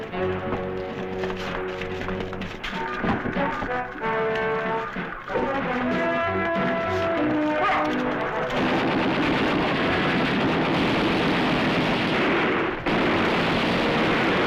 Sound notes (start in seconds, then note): 8.5 gunfire